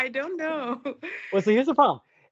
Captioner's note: chuckles